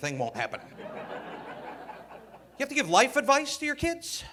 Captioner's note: audience laughing